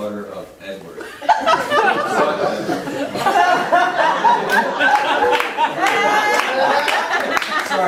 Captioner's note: audience laughing